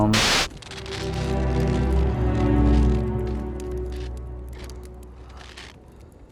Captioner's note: screen buzzes; gentle morose music; snow rasping